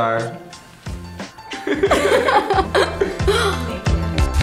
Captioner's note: laughing